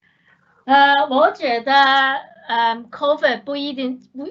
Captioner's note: Mandarin